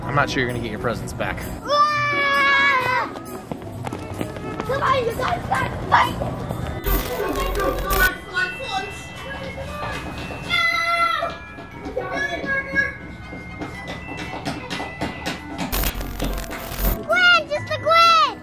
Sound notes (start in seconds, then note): 1.8 girls yelling